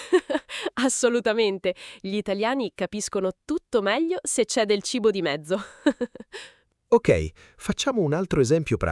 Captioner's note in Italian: risate